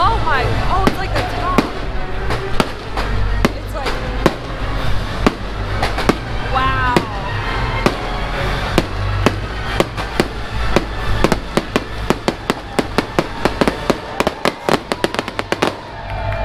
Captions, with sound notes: Oh my, oh, it's like a top. It's like... Wow! (fireworks spatter continues)